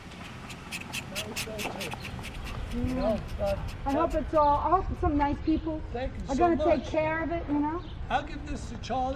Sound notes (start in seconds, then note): 4.1 woman off-screen